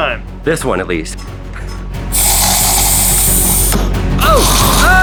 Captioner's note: gas hissing; popping